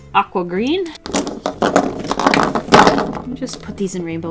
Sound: crayons clattering on desk

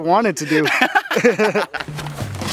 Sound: laughs

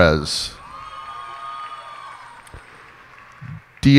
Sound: cheers and applause

